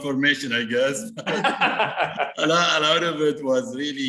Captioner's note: both laughing